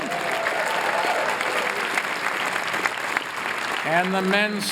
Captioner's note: applause